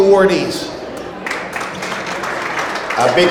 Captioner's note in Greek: το κοινό χειροκροτεί